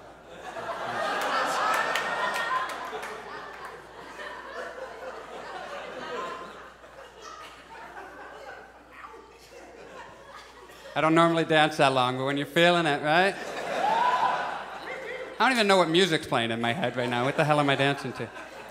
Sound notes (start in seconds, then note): 0.0 audience laughs; 13.7 audience shouts